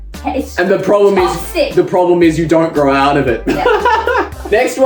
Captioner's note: laughs